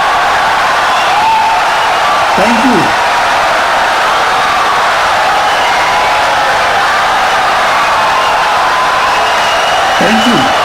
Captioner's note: wild applause and cheering for 17 seconds